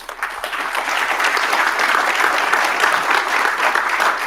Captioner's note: audience applauding